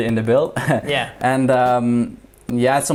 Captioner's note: chuckles